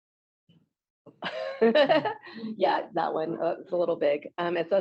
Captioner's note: laughs